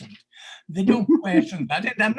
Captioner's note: laughs